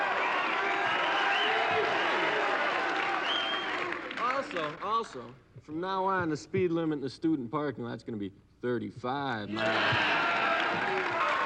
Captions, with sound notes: Also, also from now on, the speed limit in the student parking lot's gonna be 35, man. (audience cheering) (audience applauding)